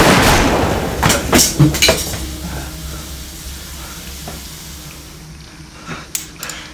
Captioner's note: gun blasting; water trickling